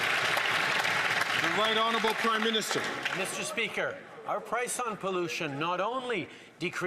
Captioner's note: some Applause